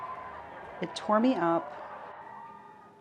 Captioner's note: protesters shouting indistinct